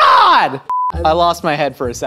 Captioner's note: beep